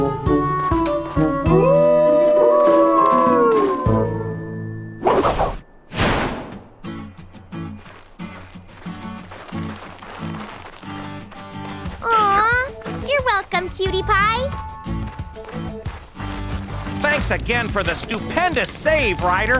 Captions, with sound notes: [howling] Aw, you're welcome, cutie pie. Thanks again for the stupendous save, Ryder.